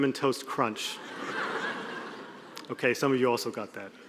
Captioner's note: audience laughing